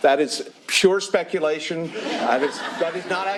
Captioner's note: laughter